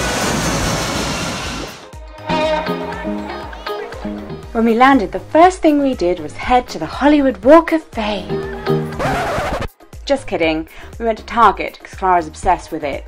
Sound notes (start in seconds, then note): 8.8 record scratch